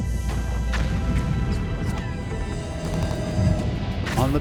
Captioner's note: gunfire